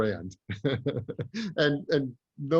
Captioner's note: laughs